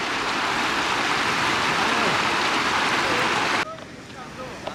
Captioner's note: sound of water